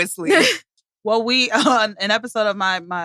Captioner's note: laughs